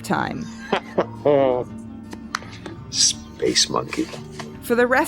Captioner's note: Jack laughing